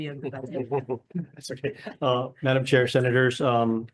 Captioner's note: chuckles